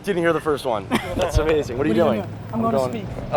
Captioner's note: laughs